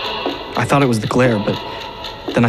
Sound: none

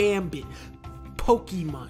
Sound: takes a breath to think

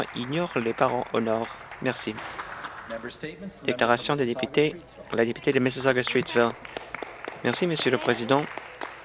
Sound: some Applause

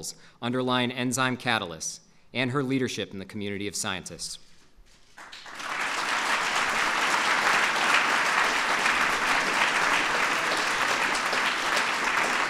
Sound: applause

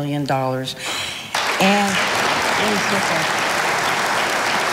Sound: audience applauding

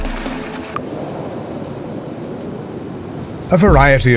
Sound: wind

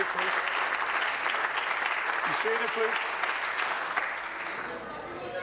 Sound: applause

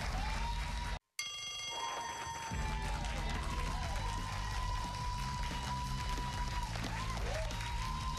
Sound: cheers and applause

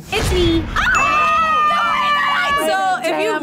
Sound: group screams

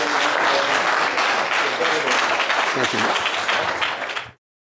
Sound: audience applauding

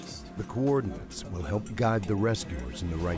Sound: voiceover

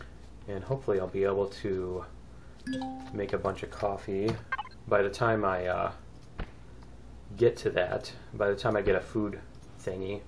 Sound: ding

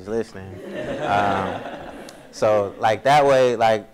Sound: audience laughs

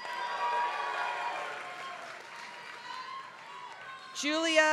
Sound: applause

